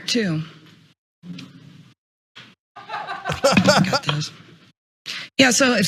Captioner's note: laugh